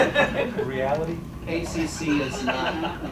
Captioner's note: chuckles